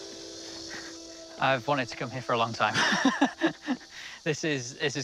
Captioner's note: laughs